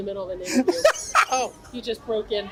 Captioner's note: laughs